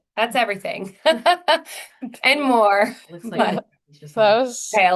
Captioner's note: laughs